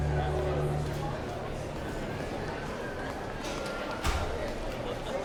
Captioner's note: overlapping chattering